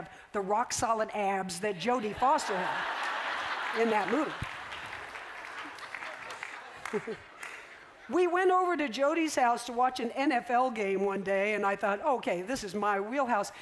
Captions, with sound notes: the rock-solid abs that Jodie Foster had in that movie. [laughter] We went over to Jodie's house to watch an NFL game one day. And I thought, OK, this is my wheelhouse.